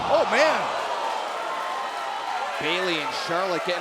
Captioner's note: crowd cheering